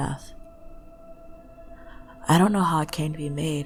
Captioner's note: deep shaky breath from nowhere, sorry lmao